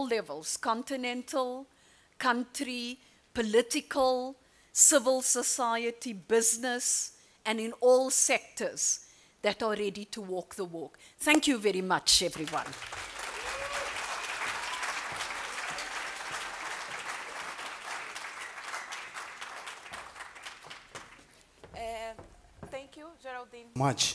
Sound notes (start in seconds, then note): 17.6 applause